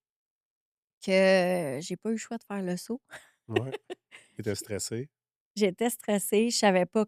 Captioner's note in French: rires